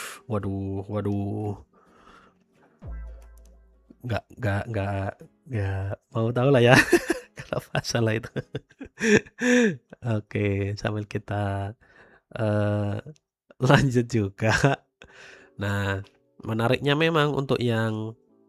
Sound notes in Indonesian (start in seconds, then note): 8.3 tertawa; 9.3 terkesiap